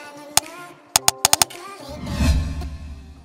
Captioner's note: upbeat music; loud clicking; loud whooshing